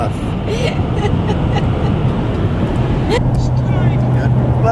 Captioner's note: laughing